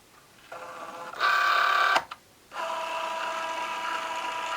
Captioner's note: machine whirring